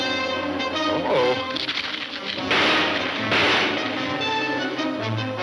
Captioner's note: gunshots banging